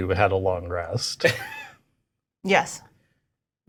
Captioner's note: Omin laughing